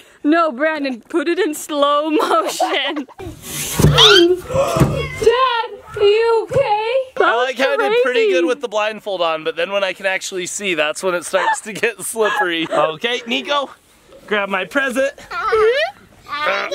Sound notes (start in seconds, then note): 3.3 thud; 4.4 gasping